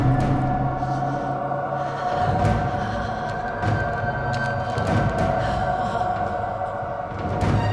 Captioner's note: dark intense music; Elaine shivers and moans